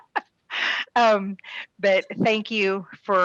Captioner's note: laughs